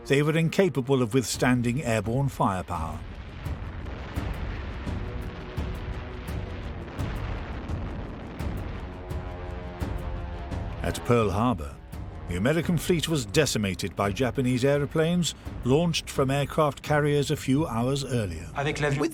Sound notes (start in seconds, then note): 4.6 explosions booming